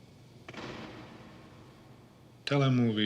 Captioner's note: door slams in distance